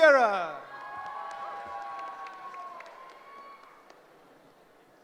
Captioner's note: cheering